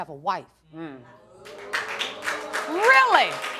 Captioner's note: audience applauding